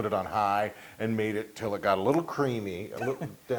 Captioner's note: laugh